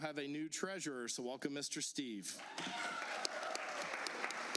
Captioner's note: applause